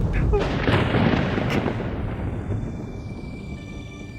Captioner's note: thunder crashing